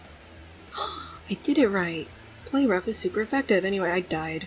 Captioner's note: gasps